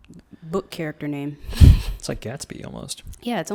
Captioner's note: laughs